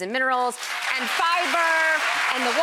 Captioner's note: crowd applauds